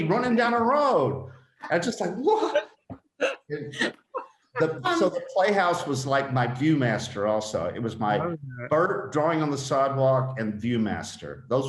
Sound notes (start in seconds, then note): 4.6 all laughing